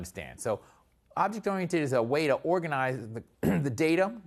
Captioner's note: cough